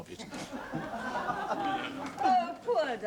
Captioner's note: laughter